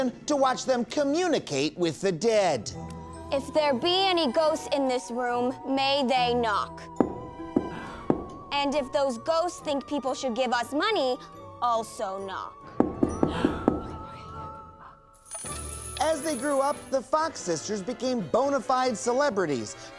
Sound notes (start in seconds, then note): 7.0 knock knock knock; 12.8 knocking; 13.3 gasps